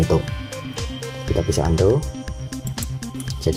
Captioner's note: click